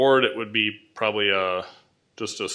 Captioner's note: none